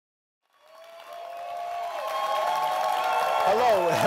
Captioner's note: audience applauds